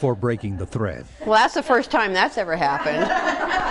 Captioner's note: sarcastically; ladies laughing